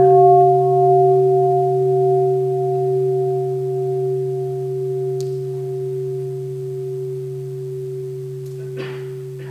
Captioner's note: sound of the bell